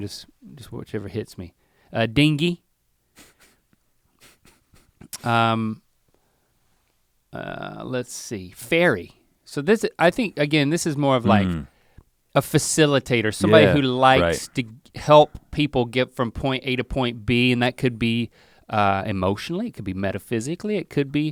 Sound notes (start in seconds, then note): 4.2 Rhett softly chuckles